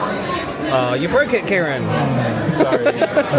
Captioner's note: laughing